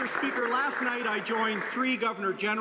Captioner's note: some Applause